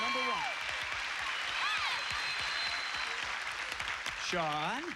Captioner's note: cheers and applause